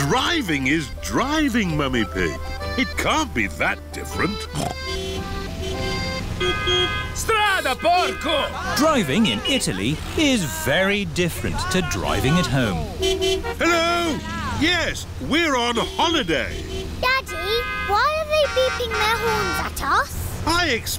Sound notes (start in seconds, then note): 4.4 snorts; 5.4 driver yells in italian; 5.4 horns honking; 14.0 horns honking